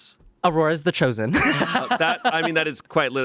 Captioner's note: laughs